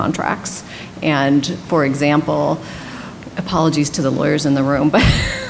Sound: laughs

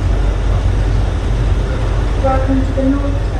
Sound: shuttle rumbling continues

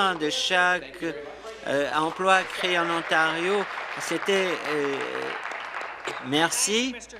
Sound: applause

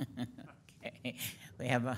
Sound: board laughing

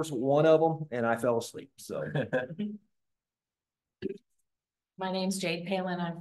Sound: laughter

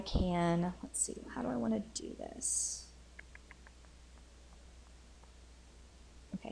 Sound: clicks tongue

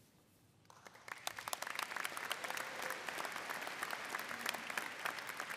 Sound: audience applauding

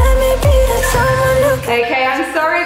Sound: alarm beeping

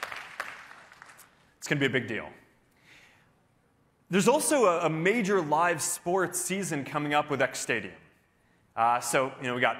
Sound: applause

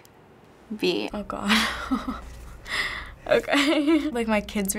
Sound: chuckling

